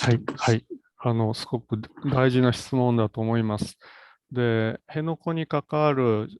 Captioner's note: speaks in Japanese